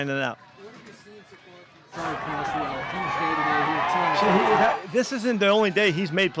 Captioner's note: reporter drowned out by cheering